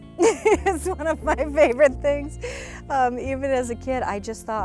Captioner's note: laughs